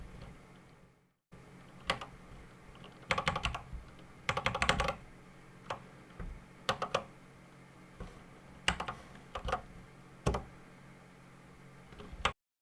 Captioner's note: typing on a C64 keyboard